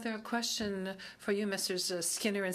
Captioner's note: speaking French